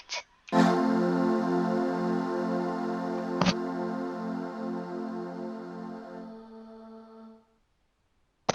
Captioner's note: chorded sound effect